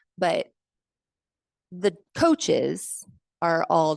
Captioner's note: none